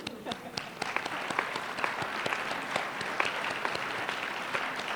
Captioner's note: applause